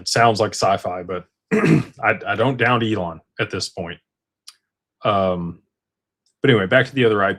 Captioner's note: clears throat